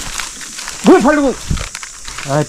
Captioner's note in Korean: 버럭